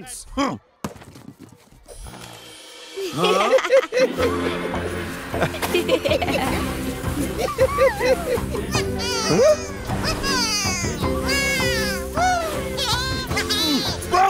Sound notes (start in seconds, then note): 3.6 laughing; 8.3 Bongolalas cheering; 12.6 laughing